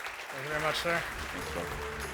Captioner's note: attendees clapping